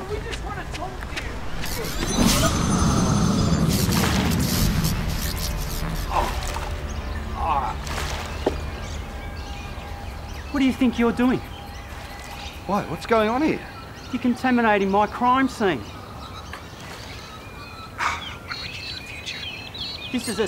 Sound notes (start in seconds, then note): 1.5 electronic whirring